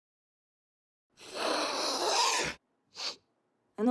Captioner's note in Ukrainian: хрипить